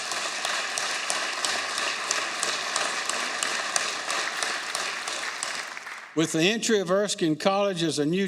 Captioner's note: applause